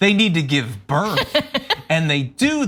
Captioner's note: laugh